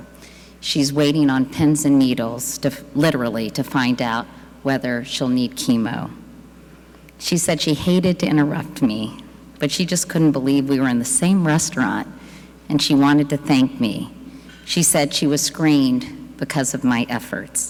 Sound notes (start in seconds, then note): none